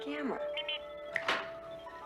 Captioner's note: Steve Trevor snaps his Fingers